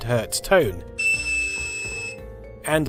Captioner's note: 2,600Hz tone